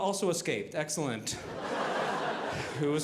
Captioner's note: audience laughing